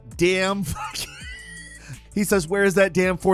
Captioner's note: wheezes